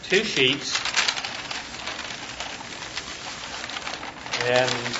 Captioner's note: paper rustling